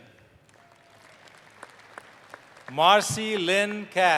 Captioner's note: applause